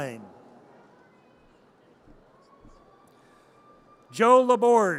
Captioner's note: audience cheers